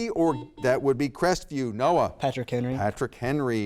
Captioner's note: buzzer beeps